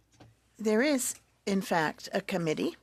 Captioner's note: speaking French